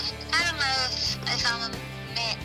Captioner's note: on phone